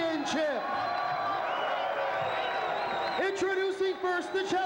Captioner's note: crowd cheering